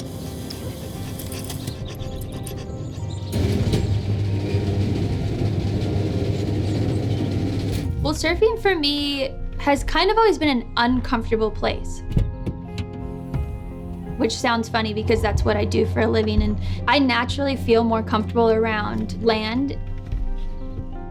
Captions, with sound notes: (dog panting) (garage door grinding) - Well surfing for me has kind of always been an uncomfortable place. Which sounds funny because that's what I do for a living. And I naturally feel more comfortable around land.